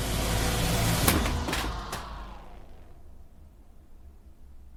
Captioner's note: doll thuds